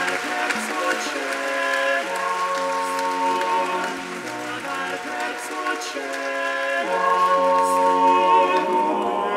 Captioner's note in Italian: Applauso